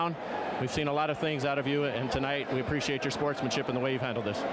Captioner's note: applause